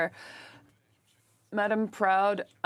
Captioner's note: speaking French